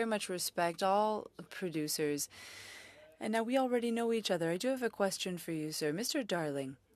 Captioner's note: speaking French